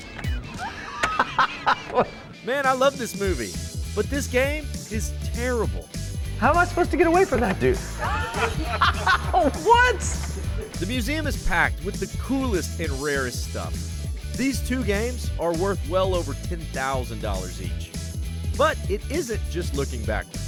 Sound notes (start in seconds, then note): 0.5 laughs; 9.0 laughs